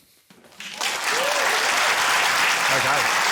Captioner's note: cheering, applause